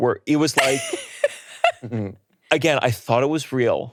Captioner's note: laughing